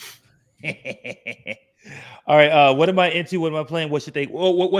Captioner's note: chuckles